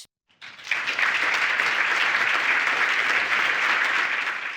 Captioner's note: audience applauding